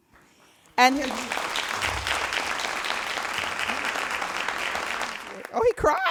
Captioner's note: all applauding